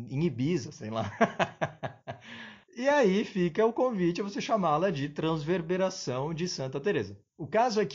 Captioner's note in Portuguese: risos